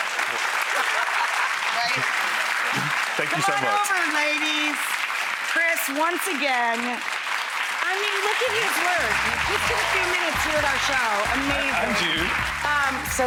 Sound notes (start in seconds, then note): 0.2 audience applause; 0.3 laughs; 3.1 audience applause; 9.2 audience cheers